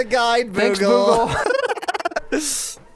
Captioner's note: laughs